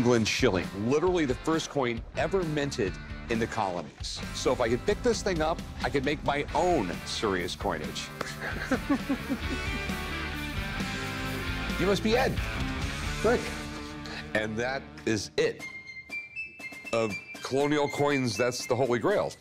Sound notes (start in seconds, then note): 8.2 chuckles; 10.2 rock music